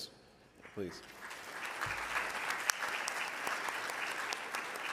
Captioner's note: audience applause